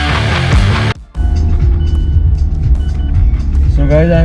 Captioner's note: car sound